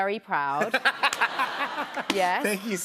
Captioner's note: laughs